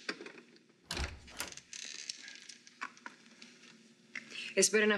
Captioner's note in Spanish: ruido de la puerta